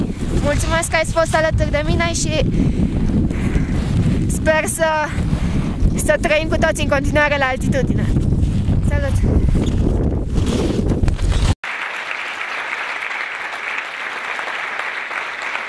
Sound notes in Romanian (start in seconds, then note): 11.6 Aplauze